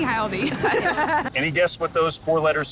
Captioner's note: laughter